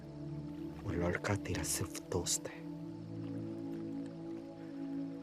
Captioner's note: foreign language